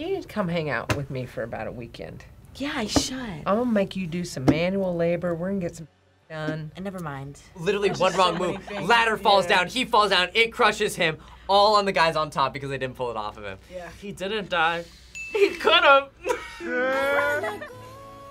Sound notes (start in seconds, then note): 16.2 laughs